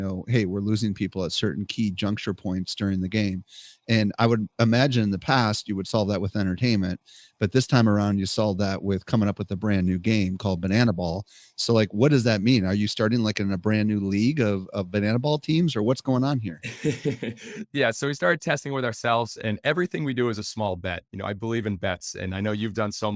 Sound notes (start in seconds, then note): 16.6 chuckling